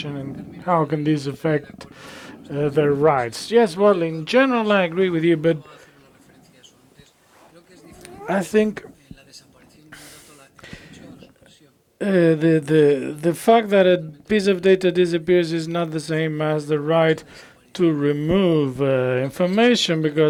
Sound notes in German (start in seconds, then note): 3.3 spanisch